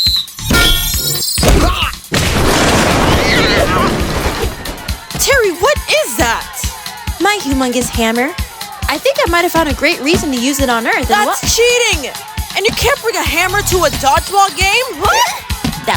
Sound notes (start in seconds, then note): 1.5 Chester grunts; 2.2 wooden crash, cat yelping; 15.2 yelping